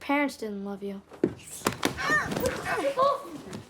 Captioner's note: groaning